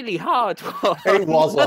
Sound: laughter

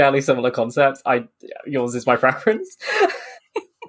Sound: laughs

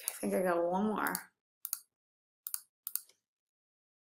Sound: clicks

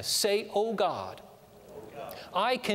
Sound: audience repeats prayer throughout

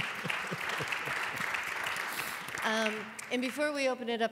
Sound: applause

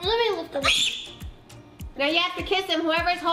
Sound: screams

